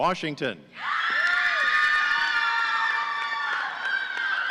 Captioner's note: audience cheering